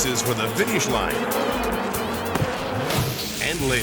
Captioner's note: bees buzzing